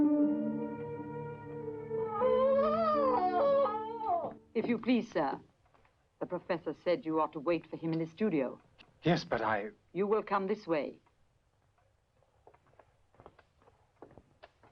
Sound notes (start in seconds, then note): 1.8 Elfie wailing